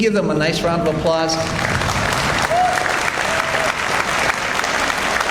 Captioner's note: audience applauds